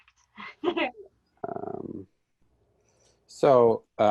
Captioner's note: lady laughs